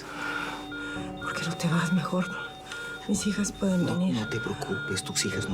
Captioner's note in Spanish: Bip acelerado